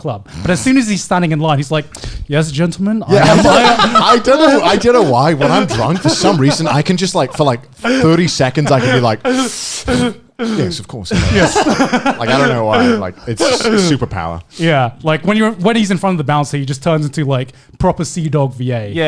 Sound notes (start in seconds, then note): 8.6 inhaling and flexing his back muscles; 11.1 laughing